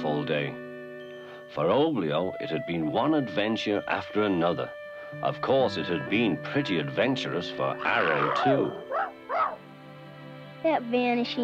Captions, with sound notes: For Oblio, it had been one adventure after another. Of course, it had been pretty adventurous for Arrow, too. (Arrow barking) - That vanishing point.